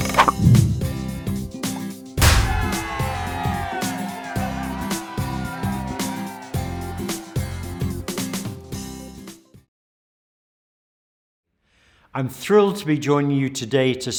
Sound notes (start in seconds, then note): 0.0 sign creaking; 0.0 number pops; 2.2 confetti bangs; 2.2 crowd cheering